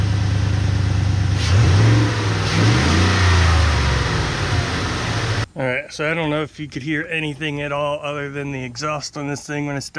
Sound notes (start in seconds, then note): 1.2 engine revving